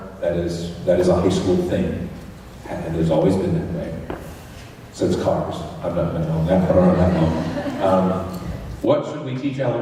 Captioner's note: laughter